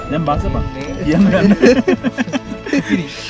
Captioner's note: chit chat and laugh